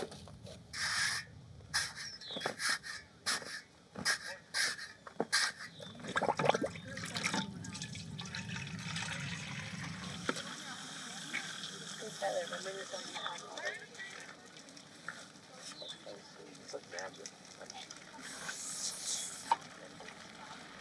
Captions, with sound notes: (sand rustling) (liquid sloshing) (people chattering) It's like magic.